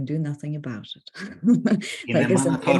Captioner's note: laughs; speaks Ukrainian